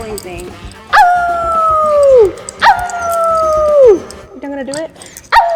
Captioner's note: howling like a dog